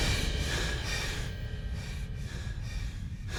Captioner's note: breathing heavily